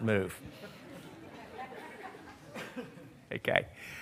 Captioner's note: laughter